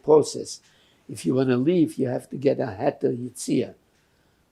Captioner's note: yiddish